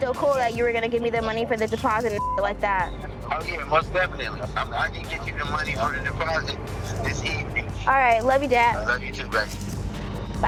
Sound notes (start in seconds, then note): 2.1 beep